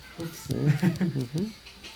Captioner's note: laughter